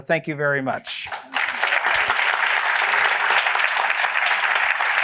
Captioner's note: applause